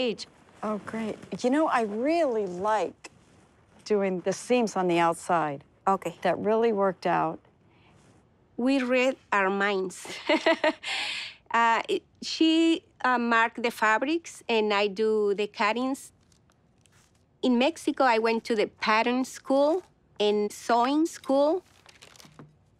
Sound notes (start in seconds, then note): 10.3 laughs